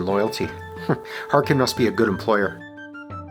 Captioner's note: chuckles